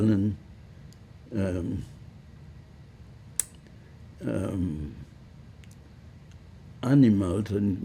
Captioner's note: pauses 6 seconds